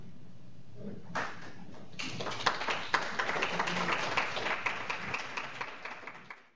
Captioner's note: clapping